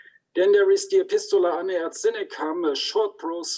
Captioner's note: speaks in foreign language